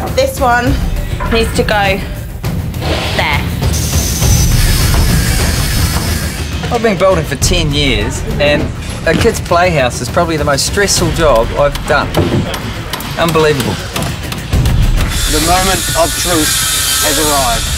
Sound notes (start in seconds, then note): 3.6 power tools whirring; 13.8 hammering